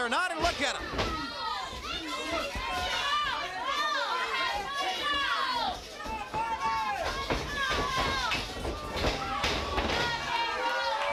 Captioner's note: crowd chatter